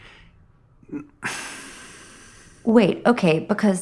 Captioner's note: sigh